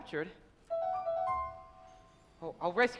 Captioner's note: Tinker Bell chimes